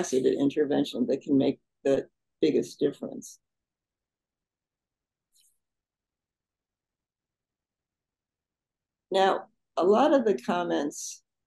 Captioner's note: pause